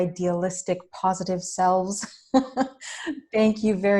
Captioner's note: laughs